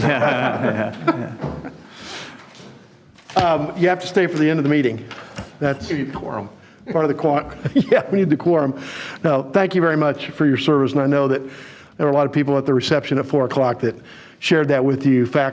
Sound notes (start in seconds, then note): 0.0 audience laughing; 6.8 laughing